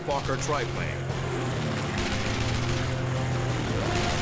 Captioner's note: weapons firing